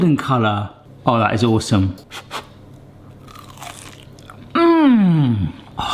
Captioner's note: potato crunching